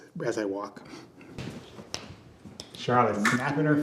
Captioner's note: fingers snapping